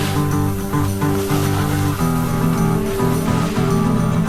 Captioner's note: skis scrape; upbeat music continues